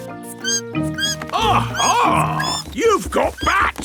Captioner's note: bat squeaking